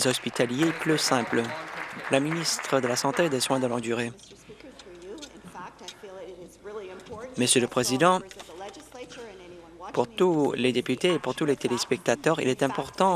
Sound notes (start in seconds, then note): 2.7 applause